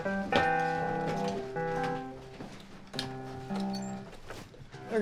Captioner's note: footsteps treading; closet door squeaks